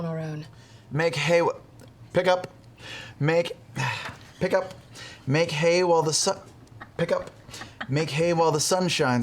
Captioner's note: sighs